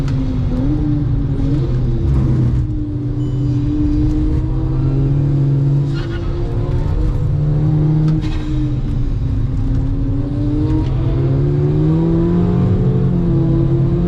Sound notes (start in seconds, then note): 3.2 brake pad warning goes off again